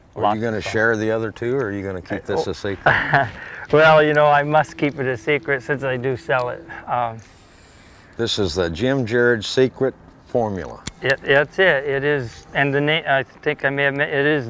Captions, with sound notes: are you going to share the other two are you going to keep this a secret [deep breath] well you know I must keep it a secret sense I do sell it this is the Jim Jerod secret formula that's it and it the